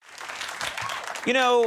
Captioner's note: audience applauds